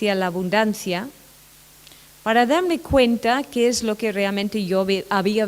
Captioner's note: none